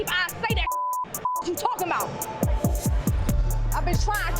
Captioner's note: beeps